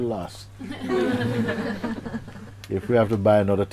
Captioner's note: laughter